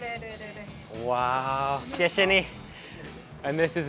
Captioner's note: speaks in a foreign language